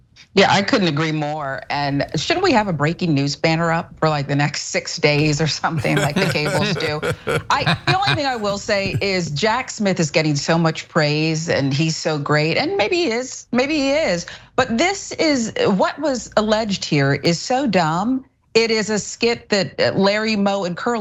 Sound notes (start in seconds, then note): 6.9 laugh